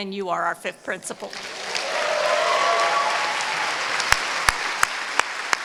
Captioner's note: applause